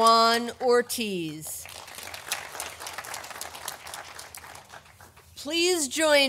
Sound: audience applauding

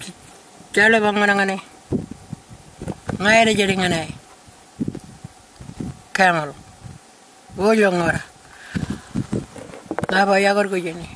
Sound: continues to speak in Aboriginal language

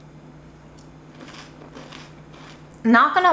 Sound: food crunching

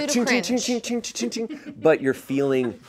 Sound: vocalizing metallic noise

